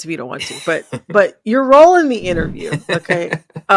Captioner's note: laughter